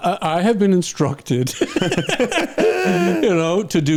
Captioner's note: laughing